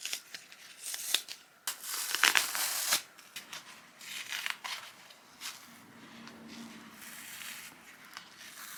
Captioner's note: peeling apart sounds continue